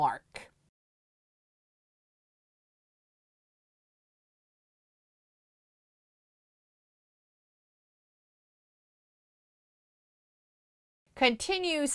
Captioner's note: no Sound Present